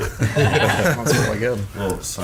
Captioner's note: laughing